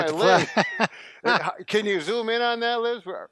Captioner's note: laughing